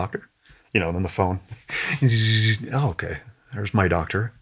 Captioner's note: mimicking phone buzzing